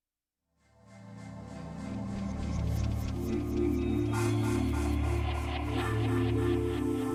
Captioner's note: logo sound effect